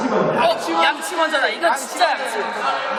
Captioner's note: all shout out brush first